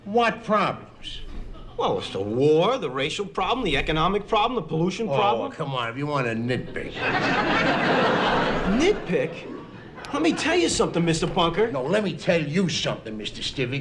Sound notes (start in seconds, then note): 6.2 audience Laughing